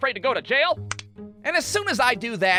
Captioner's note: click!